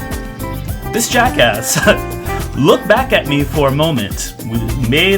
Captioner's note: laughs